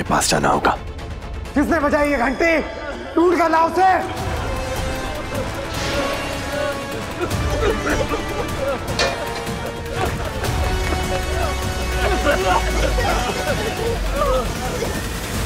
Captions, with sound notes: I have to go to them immediately. Who rang this bell? Go and find him. [tense music playing] [coughing]